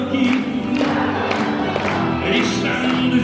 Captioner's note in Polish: publiczność klaszcze